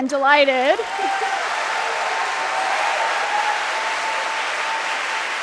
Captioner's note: applause